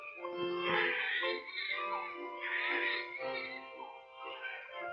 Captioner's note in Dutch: baby's huilen